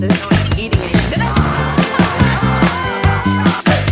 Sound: screaming

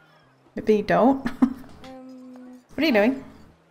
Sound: laughs

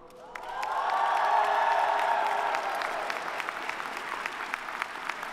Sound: audience applauding

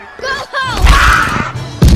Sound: screaming

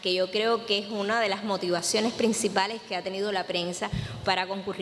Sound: speech in Spanish

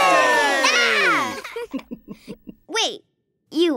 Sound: Finny yells

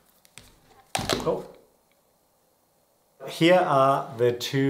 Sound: phone thuds

